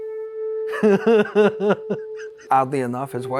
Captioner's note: man laughing